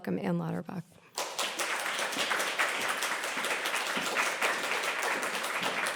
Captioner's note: applause